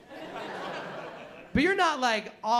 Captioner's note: laughter